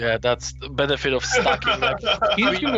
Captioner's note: laughing